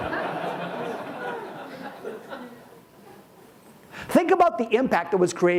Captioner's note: audience laughs